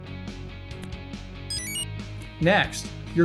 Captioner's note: enter chime